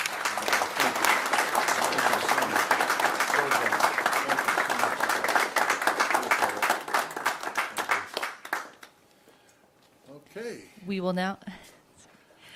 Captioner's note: applause